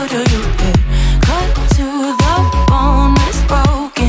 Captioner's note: timer beep